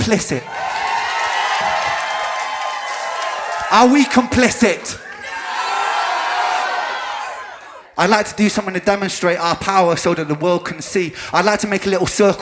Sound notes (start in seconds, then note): 0.0 crowd cheers; 4.9 crowd screams, "Noooooooooo"